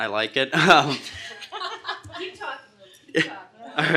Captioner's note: group laughter